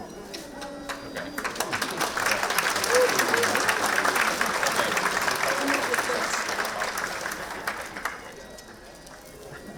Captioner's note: applause